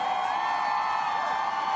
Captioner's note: applause